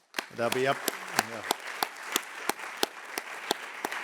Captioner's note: all clapping